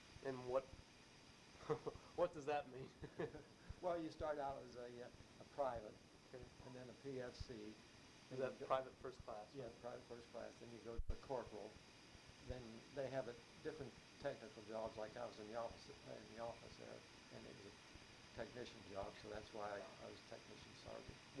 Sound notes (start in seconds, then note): 2.8 laughs